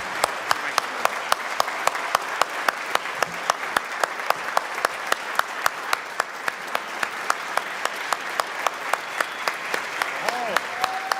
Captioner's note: applause